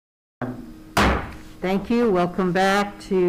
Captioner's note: gavel bangs